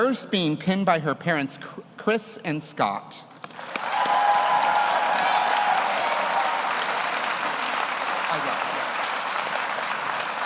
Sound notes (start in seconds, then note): 3.5 audience applauds; 3.6 audience cheers